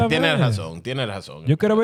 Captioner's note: speaking In Foreign Language